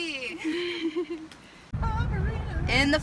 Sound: laughs

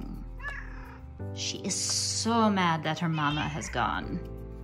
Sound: grumpy kitty sounds; cat noises

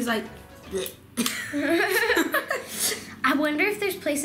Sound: laughing

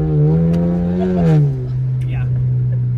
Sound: engine revving; laughs

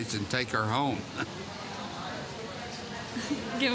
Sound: speaking spanish

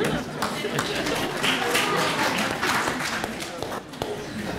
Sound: applause

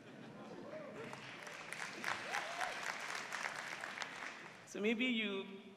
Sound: cheering

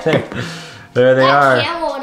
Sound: chuckling

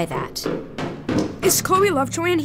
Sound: loud footsteps

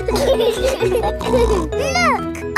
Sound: laughing

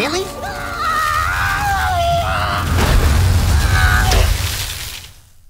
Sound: shrieking continues; shrieking continues then stops abruptly

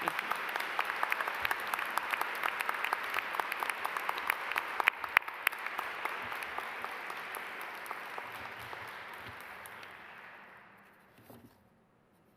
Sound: applause

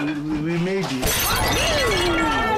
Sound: crash

